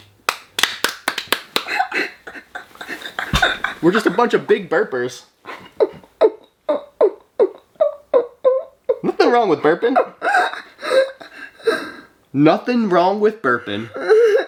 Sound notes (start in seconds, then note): 0.0 both clapping; 1.6 laughing; 6.2 vocalizing; 9.6 laughing